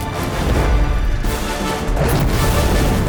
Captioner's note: flames crackling; wings whooshing; flames whooshing